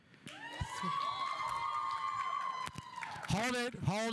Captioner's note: audience cheering; audience applauding